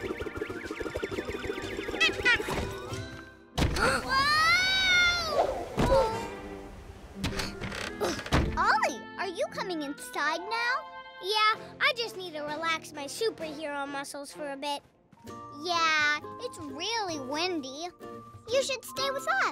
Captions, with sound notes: [honk] [gasp] Whoaaahh! Ooof! Ollie! Are you coming inside now? Yeah, I just need to relax my superhero muscles for a bit. Yeah. It's really windy. You should stay with us.